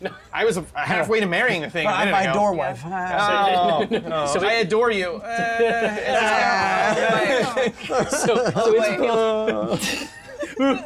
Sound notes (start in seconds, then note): 5.2 all fake crying; 5.2 fake crying